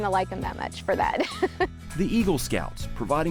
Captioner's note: laughing